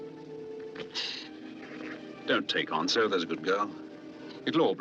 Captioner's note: inhales Sharply